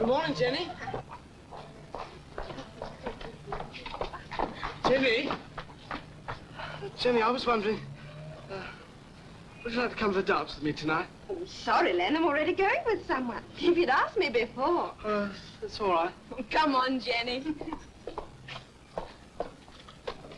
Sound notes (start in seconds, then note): 0.0 women chattering; 3.8 women chattering; 17.5 women giggle